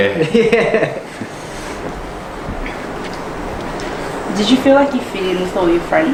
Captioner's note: all: "yeah" laugh